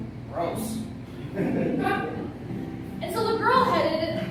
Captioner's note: laughter